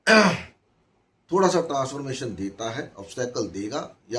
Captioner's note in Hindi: गला साफ़ करने की आवाज़